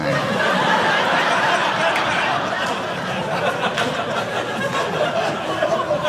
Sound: audience laughing

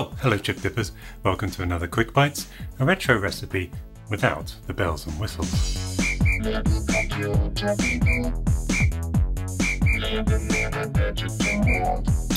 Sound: whistle blows

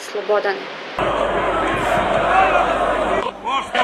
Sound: mass chanting

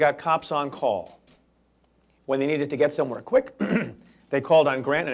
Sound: clears throat

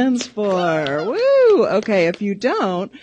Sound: cheering

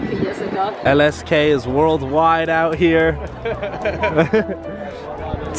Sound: laughs

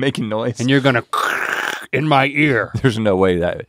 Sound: gargling

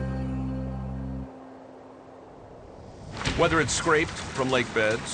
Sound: wind

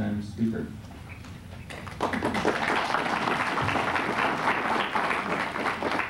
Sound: applause

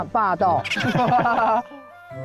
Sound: laughing

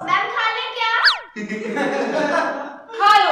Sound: laughing

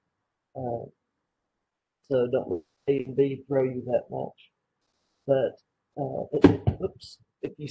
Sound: speaker drops something

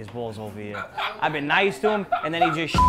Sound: laughs

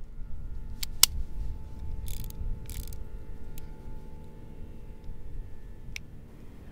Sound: gun barrel spins

